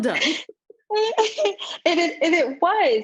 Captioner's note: laughs